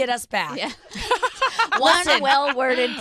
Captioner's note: laughs